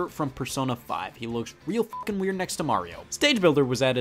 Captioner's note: beep